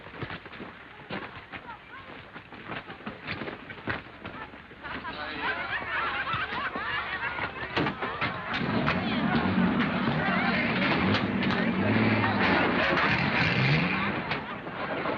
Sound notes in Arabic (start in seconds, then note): 5.0 ضحك الجمهور; 8.8 محركات المركبات تدور